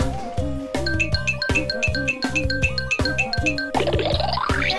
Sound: bells twinkling; cartoonish rattling

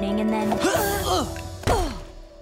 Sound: grunting

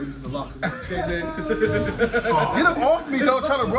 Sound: laugh

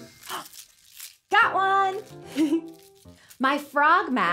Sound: giggles

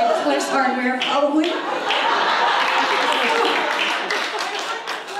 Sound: audience laughs; applause

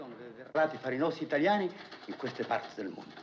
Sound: continues In Italian

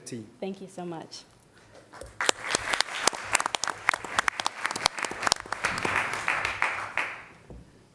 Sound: applause

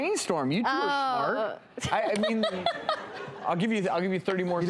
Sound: laughs

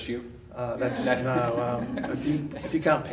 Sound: laughter

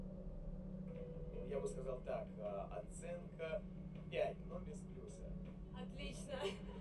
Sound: speaking in a foreign language

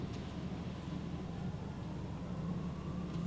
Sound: none

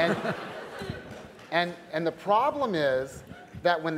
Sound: laughter

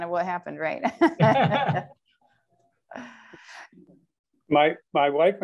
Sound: laughter

